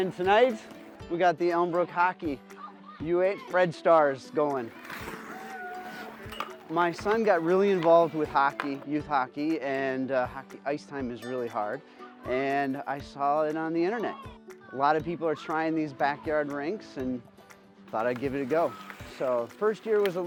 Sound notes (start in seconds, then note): 4.6 blade scrapes; 5.3 people hollering